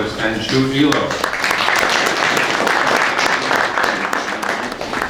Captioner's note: audience applause